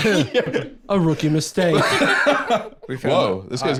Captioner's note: laughs